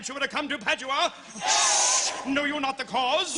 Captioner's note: Crowd cheers Padua